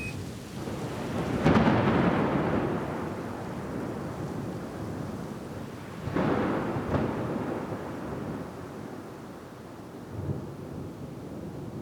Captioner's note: thunder and rain